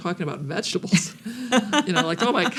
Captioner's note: laughs